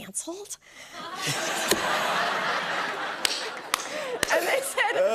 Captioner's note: laughter